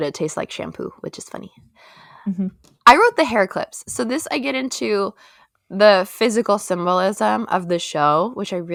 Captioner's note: mhmm